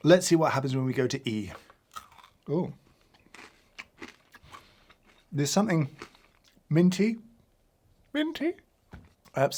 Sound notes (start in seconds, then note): 2.9 crunching on candy